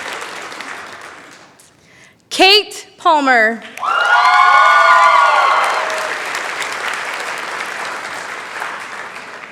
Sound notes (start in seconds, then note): 3.8 cheering